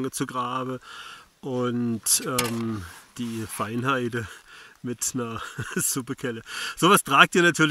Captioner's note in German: laughs